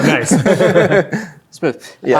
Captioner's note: players laughing